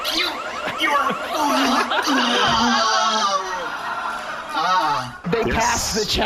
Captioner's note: alarms cease